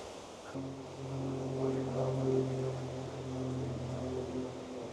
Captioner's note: aeroplane overhead